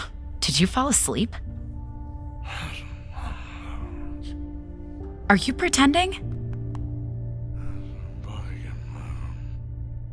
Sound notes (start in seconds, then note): 6.2 light patting